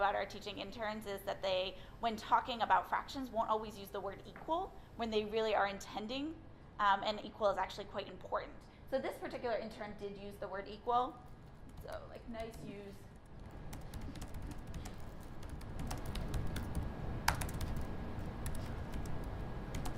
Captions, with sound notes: our teaching interns is that they, when talking about fractions won't always use the word equal when they really are intending and equal is actually quite important. This particular intern did use the word equal. Nice use (Typing)